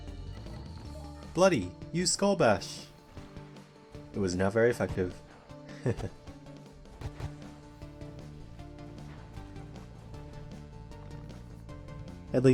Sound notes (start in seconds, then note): 5.3 laugh